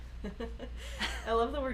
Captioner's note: laughing